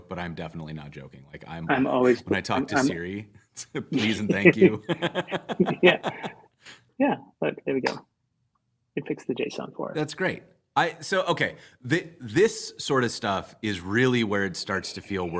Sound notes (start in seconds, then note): 3.9 laughter